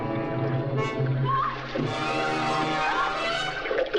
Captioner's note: tense music; screaming